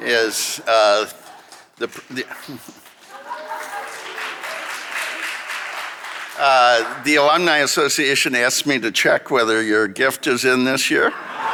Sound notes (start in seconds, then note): 0.4 audience laughing; 3.9 audience applauding